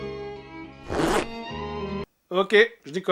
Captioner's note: zipper sound